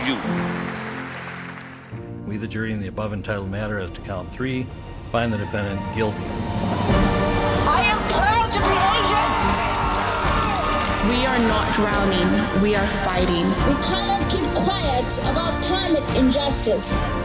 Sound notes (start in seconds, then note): 0.0 audience breaks into applause; 9.5 crowd cheering